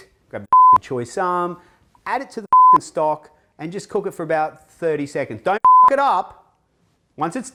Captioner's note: beep; beep